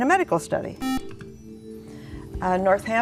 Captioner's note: beeping